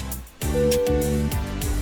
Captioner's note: PA system beeping; chattering